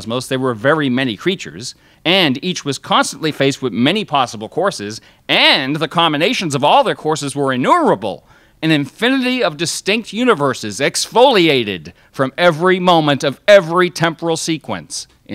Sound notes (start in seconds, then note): none